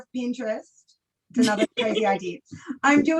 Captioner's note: laughs